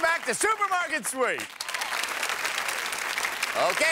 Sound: applause

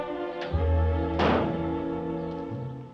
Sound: car hood slams

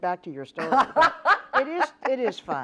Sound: laughs

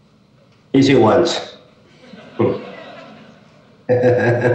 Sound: audience laughing

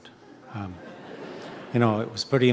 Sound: audience chuckling

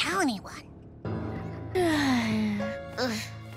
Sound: sighing

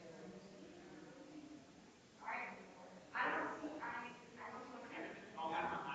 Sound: people chattering distantly continues

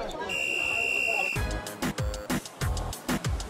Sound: whistle blows

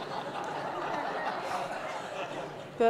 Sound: laughter

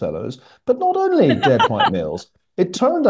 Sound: laugh

